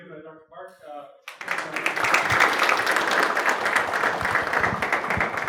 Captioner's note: audience applauding